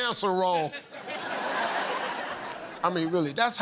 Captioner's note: laughter